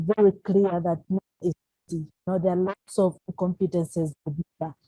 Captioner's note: crackling drown out speaker